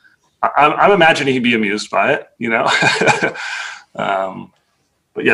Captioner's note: laughs